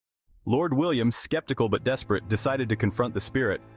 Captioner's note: voice-over